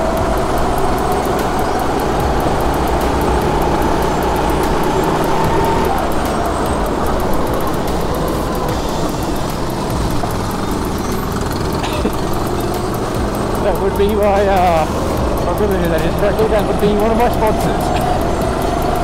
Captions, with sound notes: *chuckles* That would be my, ahh That would be one of my sponsors.